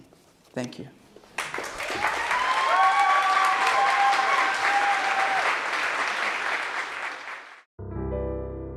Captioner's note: cheers and applause; piano chord playing